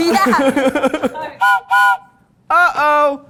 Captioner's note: whistle blows